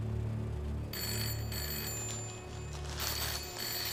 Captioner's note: phone ringing